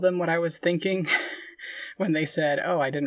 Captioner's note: laughing